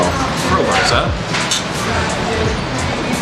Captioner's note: glasses Clink